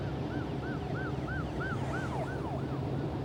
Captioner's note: police siren